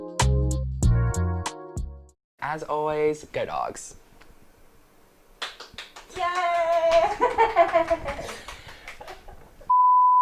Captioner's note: woman in Background Clapping